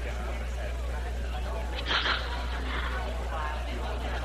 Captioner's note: sneezing